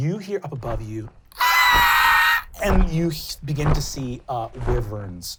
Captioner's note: screeching